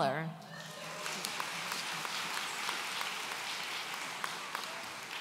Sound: audience applauds

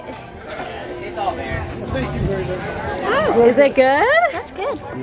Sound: people chattering

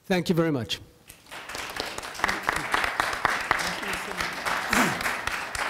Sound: audience applauding

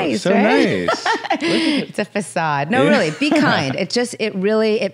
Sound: laughs

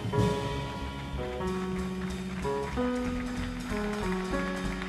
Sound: audience applauding

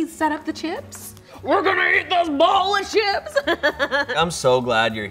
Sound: laughs

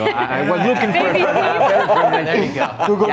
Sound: laughs

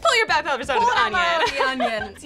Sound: laughs

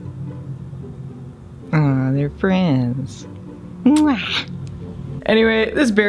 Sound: muah

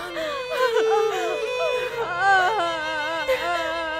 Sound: crying

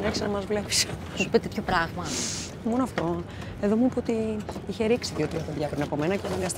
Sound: Vanina and Kaiti speaking foreign language

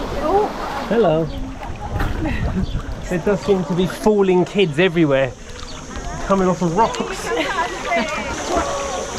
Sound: laughter

